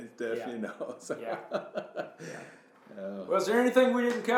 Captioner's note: laughs